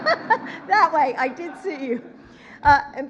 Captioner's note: laughs